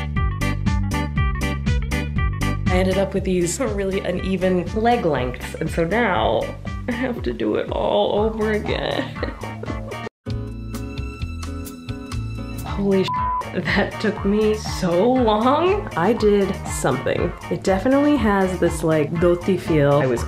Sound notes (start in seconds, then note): 10.1 smooth music; 13.0 beeping